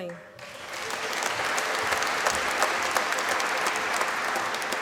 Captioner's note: applause